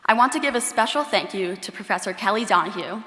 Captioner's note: none